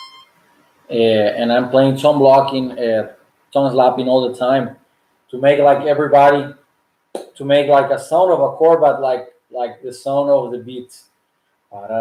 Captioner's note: clap